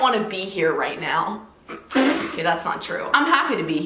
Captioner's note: laughing